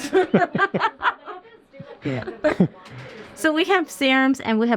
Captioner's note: both laughing